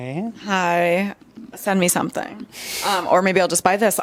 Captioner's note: laughs